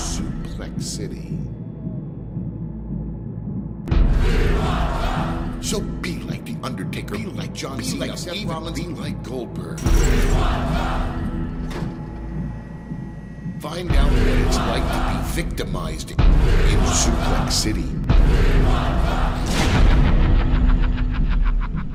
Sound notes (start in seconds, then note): 0.0 chanting; 4.0 chanting; 11.3 chanting; 18.4 chanting; 21.7 evil laughter